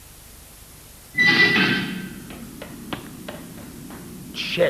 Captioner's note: Clocktower Rooftop Door Opens